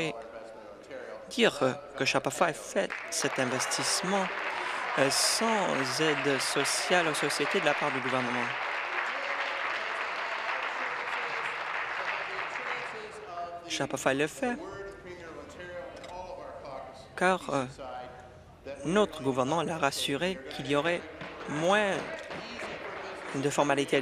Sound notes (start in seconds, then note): 0.0 applause; 7.1 applause